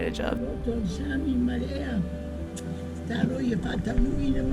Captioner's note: foreign language